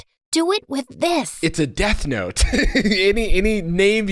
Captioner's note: laughs